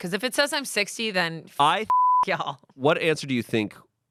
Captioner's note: beep